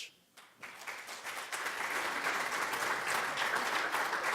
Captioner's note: audience applauding